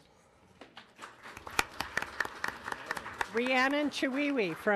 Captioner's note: audience applauding